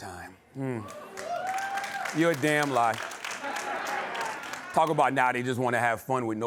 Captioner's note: cheering and applause